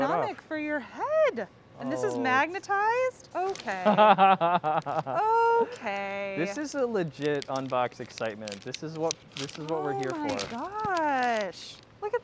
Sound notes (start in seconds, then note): 3.8 laughing